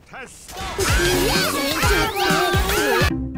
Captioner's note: 100 anime noises layered on top of each other